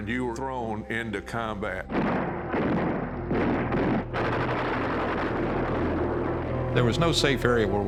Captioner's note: gunfire